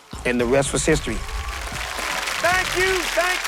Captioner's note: audience clapping